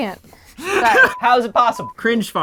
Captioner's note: laughing